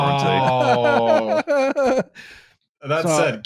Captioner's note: laughs